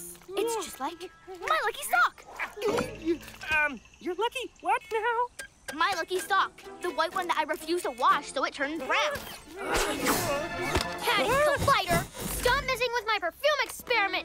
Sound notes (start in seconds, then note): 2.2 gulps; 9.2 nervous whimpering